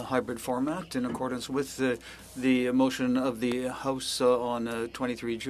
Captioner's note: speaking French